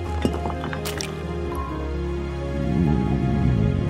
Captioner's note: brick clacks; cement squelches